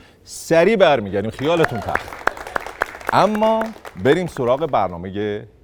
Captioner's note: applause